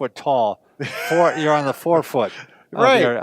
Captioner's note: laughter